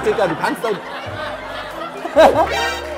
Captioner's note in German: Lachen